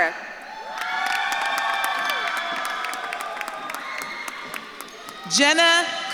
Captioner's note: audience claps and cheers